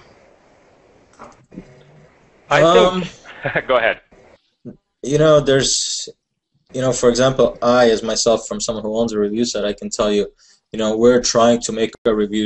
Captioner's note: chuckle